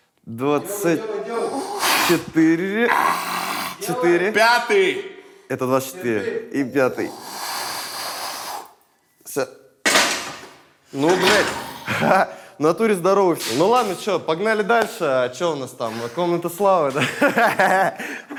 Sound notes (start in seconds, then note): 9.8 barbell clangs; 17.0 laughs